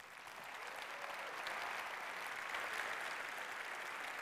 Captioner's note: applause